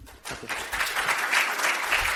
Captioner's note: applause